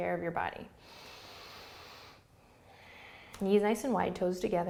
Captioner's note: breathing